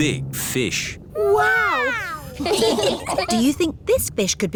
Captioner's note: laughing